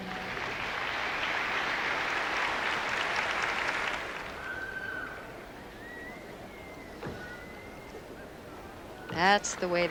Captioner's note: applause